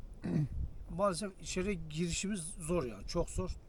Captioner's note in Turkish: boğazını temizler